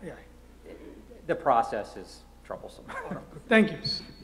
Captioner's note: laughs